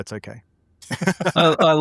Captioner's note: laughing